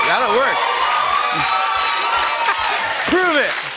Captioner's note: cheers and applause continue